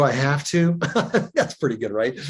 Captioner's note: chuckles